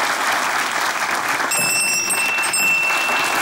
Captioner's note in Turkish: Zil sesi